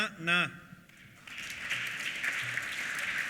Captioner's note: applause